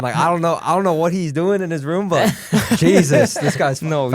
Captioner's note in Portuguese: risos